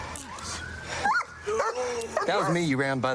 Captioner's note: dog barks